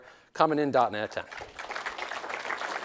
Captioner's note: applause